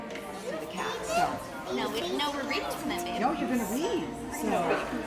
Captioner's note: children talking